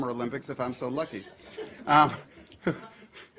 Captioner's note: laughter